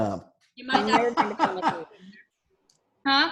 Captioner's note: laughs